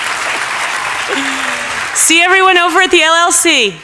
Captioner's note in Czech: Potlesk